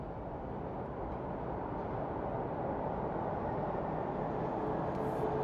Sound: subway approaching

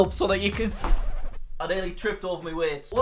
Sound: record scratch

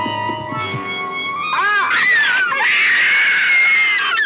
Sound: loud terrified screaming

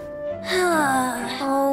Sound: sigh

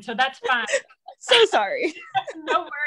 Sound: laughs

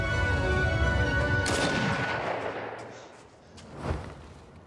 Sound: gunshot

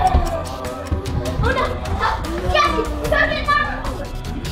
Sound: both growling

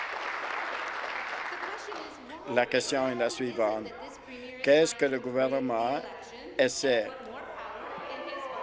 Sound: applause

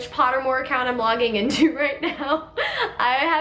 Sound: laughs

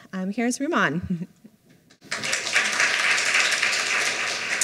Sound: applause

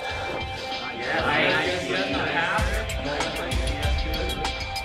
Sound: chattering

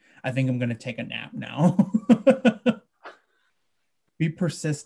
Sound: he laughs

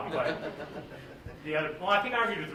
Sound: laughter

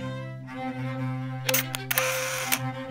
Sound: camera whirring

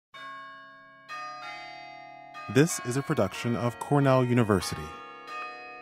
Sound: bells ringing

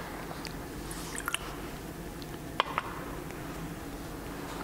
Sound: water pouring

